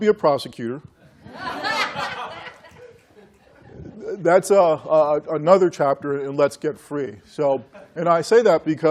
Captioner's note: laughter